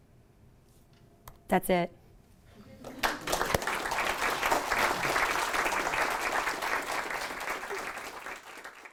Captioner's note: clapping